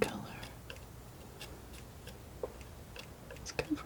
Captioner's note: scratching